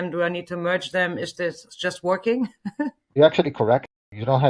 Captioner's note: laughs